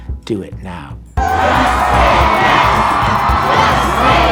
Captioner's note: chanting